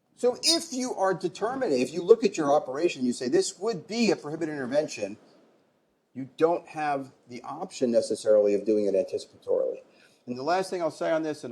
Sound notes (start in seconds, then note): none